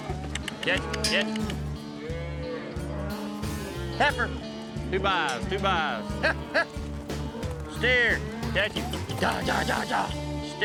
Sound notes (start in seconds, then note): 0.7 mooing; 6.0 calling; 9.6 calling